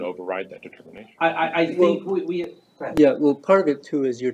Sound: indistinct chatter

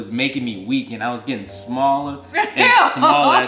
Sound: laughing

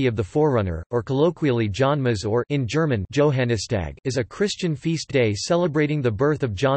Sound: in German

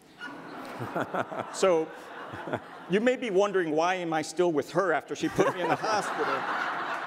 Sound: audience laughter

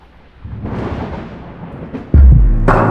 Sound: thunder

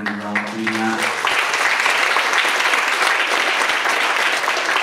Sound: audience applauds

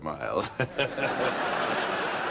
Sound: chuckles

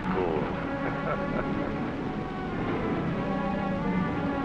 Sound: chuckling

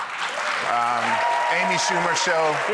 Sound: audience clapping and cheering

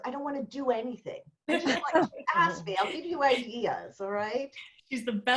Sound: laughter

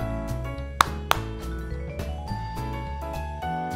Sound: Madelaine claps

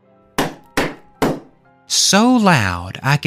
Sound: knocking

